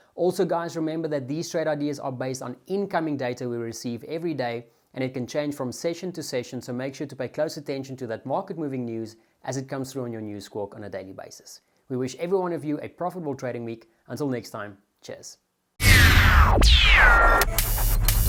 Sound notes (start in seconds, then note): 15.8 mechanical sounds